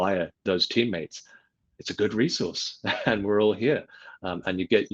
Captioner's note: chuckles